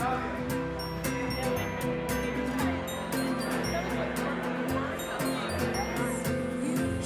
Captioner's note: guests chattering; uplifting music